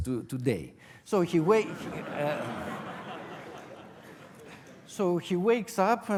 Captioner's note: audience laughter